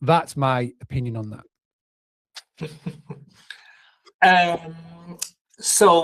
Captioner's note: laughs